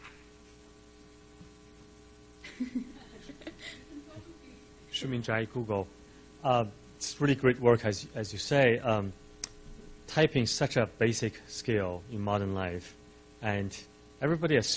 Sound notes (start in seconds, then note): 2.5 laughs; 7.5 voiceover